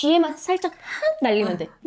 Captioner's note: impersonation